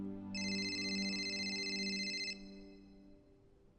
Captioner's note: phone ringing